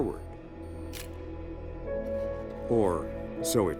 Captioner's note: camera shuttering